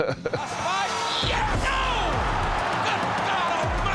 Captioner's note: chuckles; crowd cheers wildly